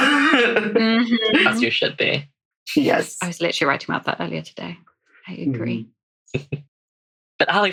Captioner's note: laughs